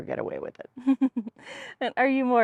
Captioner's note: laughter